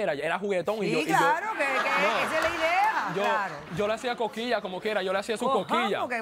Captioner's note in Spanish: Risotadas